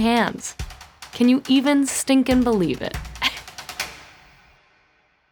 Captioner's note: laughs